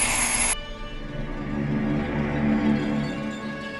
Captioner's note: bell ringing